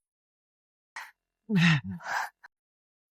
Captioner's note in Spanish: Suspiro